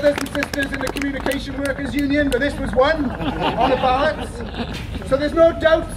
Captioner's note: laughter